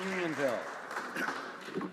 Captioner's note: some Applause